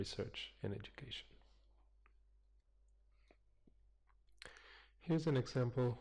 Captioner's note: pause